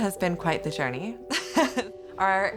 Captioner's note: laughing